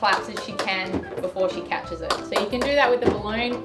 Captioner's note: clapping